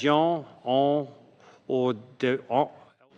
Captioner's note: speaking French